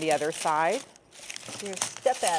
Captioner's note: garlic rustling